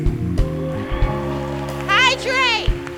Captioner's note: applause